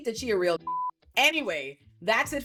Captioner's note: beep